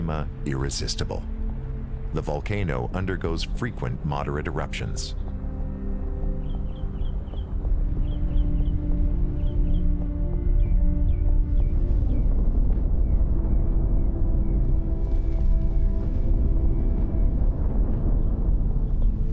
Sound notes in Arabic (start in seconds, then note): 10.2 صوت انفجار